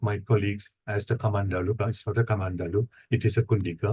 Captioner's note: speaking foreign language